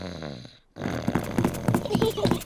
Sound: snores; both giggle

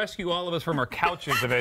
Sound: laughter

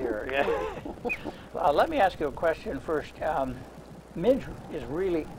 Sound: laughter

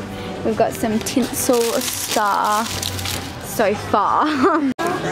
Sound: laughing

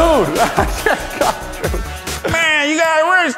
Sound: laughter

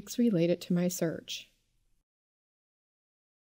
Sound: pause

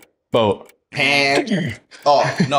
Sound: imitates buzzer

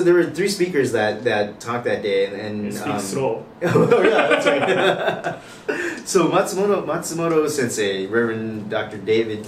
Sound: laughs

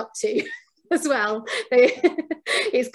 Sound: laughs

